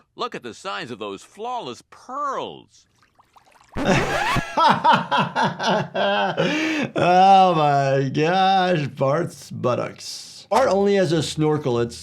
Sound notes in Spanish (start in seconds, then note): 3.7 rayado de discos; 3.8 riendo